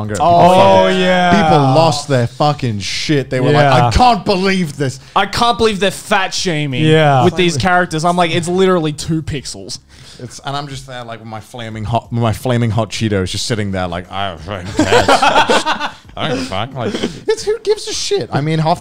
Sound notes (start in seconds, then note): 14.6 men laughing